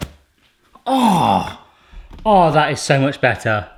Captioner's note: gasps